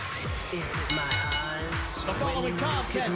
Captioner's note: bell ringing